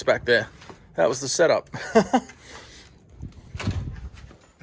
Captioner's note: chuckling